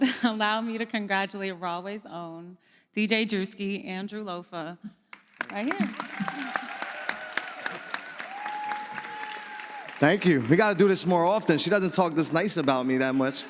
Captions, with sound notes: Allow me to congratulate Rahway's own, DJ Drewski, Andrew Loffa, right here. (audience applauds) Thank you. We gotta do this more often. She doesn't talk this nice about me that much.